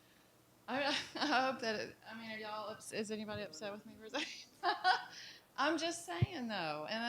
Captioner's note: laughing